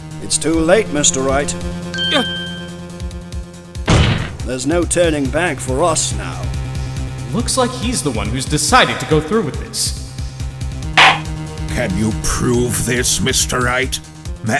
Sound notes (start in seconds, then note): 11.0 gavel slams!